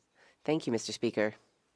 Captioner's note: speaking French